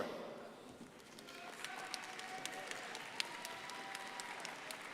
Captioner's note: crowd applauding